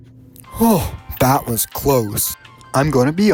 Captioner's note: sigh